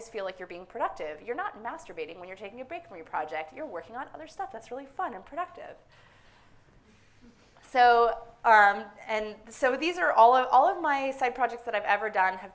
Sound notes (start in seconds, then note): none